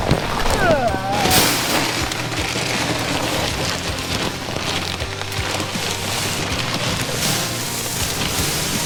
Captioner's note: Torrential rush of heavy grain filling the metal Game Winner box